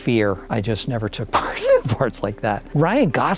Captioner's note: laughs